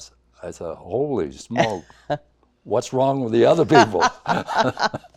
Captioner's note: laughs